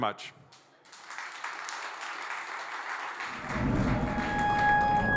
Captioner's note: applause